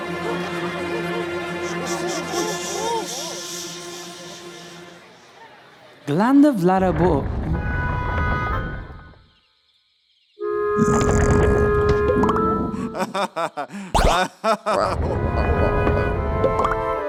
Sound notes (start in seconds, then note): 1.6 crowd shushing; 12.7 laughing